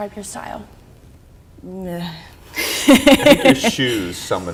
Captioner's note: laughing